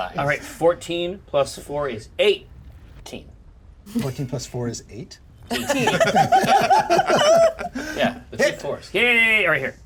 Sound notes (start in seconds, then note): 5.5 laughs